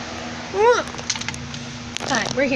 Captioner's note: exclaims